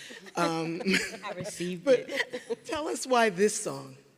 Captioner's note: people laughing